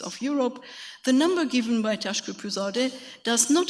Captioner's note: speaks foreign language